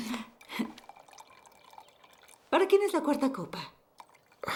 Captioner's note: wine pouring